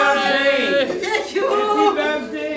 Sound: chatter

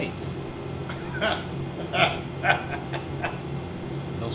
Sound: laughs

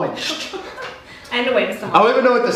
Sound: laughs

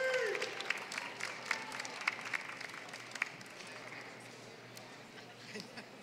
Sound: applause

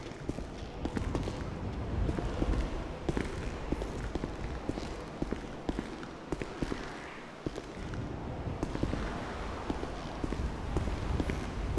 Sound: faint rushing wind

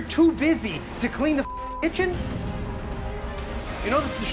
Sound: beeping

